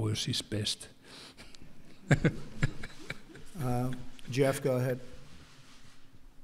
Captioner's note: laughs